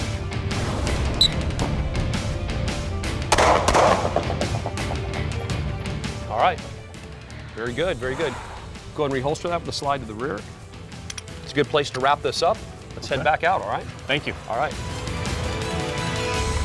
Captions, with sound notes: (whistle) (gun shots) Alright, very good, very good. - Go and re-holster that, with a slide to the rear. It's a good place to wrap this up. Let's head back out, alright. - Thank you. - Alright.